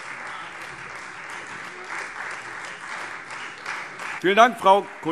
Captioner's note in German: Beifall Freie Demokraten